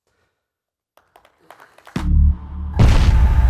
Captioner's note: applause